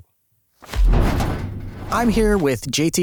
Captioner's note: heavy door closing